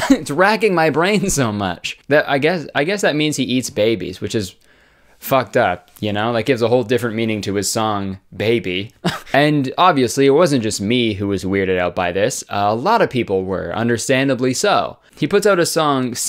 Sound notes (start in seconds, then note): 9.0 laughs